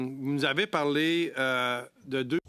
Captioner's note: speaking French